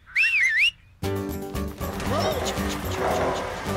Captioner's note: Spud Whistles